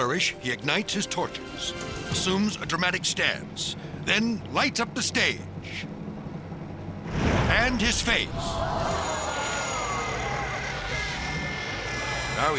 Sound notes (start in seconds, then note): 7.0 fire whooshes; 8.3 crowd gasping